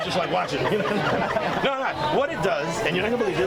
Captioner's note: group laughs